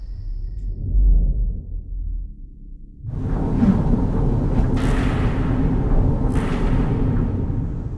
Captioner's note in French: Sons industriels/électriques